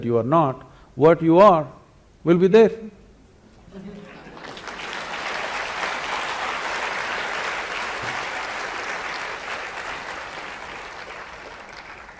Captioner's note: applause